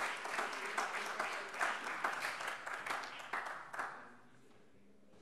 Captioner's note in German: Beifall